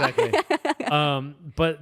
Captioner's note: laughs